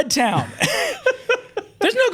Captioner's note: laughs; chuckles